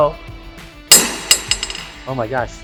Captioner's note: ball bangs on deck